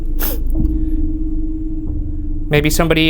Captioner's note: sniffling